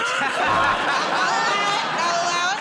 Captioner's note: laughter and applause; buzzer